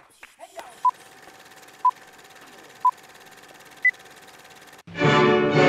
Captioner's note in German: Piepen